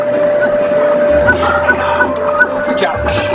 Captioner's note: video game sound effects